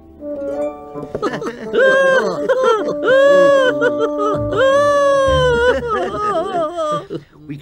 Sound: laughing

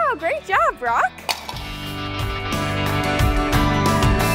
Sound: plate shattering; upbeat music

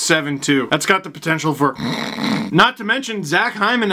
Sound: snores

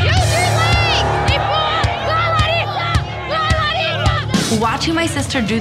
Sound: yells excitedly

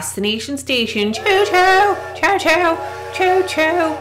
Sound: train whistle blows

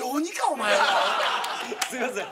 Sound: laughter

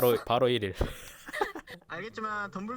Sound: laughs

